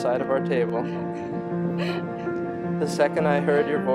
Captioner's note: laughs